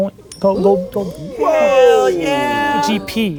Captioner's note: all gasping